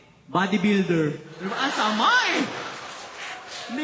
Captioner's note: laughter